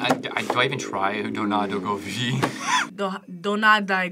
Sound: laughs

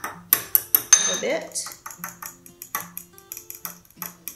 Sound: fork whisking

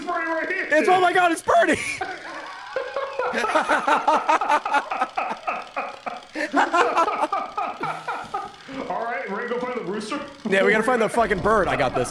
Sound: laughs

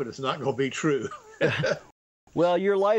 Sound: laughs

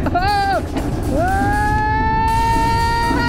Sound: screaming

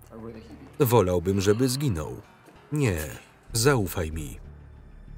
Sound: speaking foreign language

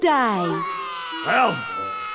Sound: crying

